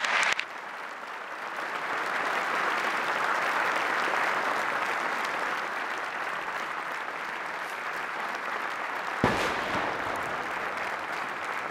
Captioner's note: speaking French; applause